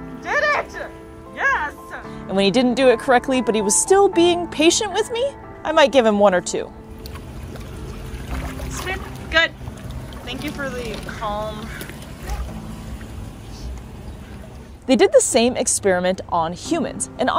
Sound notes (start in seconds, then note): 7.0 background music; 7.0 gentle water splashing noise; 12.1 background music